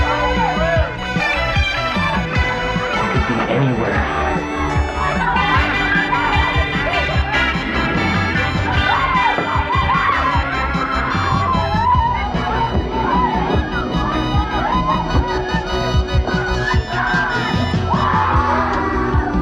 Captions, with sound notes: - They could be anywhere. (people talking) (upbeat synthesizer music)